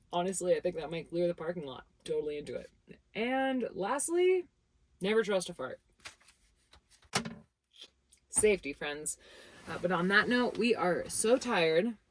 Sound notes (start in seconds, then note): 7.1 notebook clinking